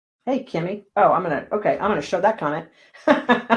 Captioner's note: laughing